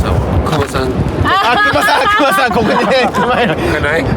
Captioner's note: laughter